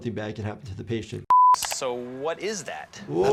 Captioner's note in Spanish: el carrete de video emite un pitido